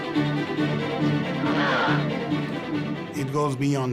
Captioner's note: groans